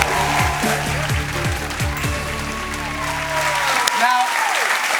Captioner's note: cheers and applause